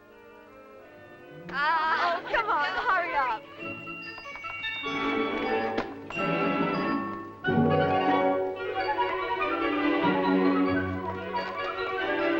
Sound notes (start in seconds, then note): 1.7 girls laughing; 3.4 happy music